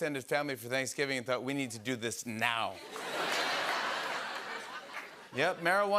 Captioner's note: laughter